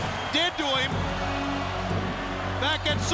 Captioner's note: crowd chanting "Goldberg"